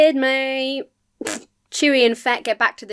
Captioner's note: blows raspberry